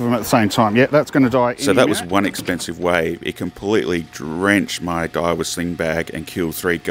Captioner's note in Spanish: Voz en off